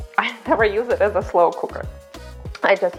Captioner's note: laughs